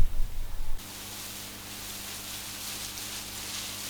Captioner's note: water sprays